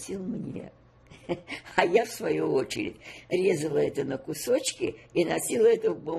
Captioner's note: laughing